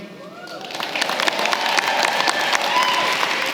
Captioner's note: applause